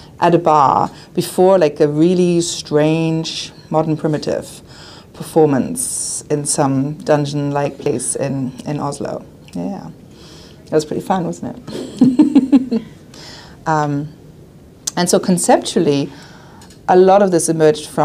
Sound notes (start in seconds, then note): 11.8 laughs